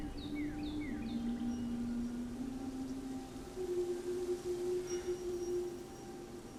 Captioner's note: birds chirping